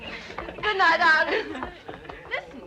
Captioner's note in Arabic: نساء يضحكن